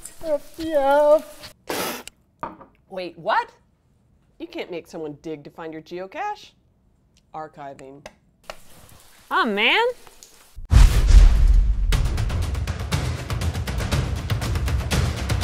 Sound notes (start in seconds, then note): 1.6 spits